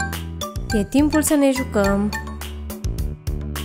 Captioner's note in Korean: 쿵 더덕 쿵 더러러러